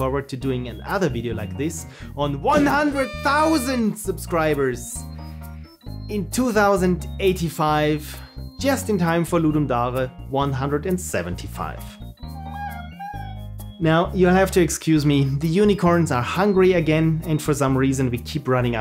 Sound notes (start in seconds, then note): 12.3 unicorn whines